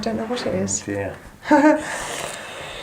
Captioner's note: chuckle